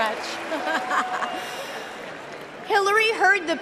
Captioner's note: cheering and applause